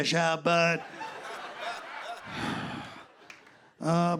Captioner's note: laughter